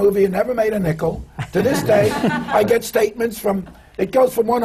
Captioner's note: laughter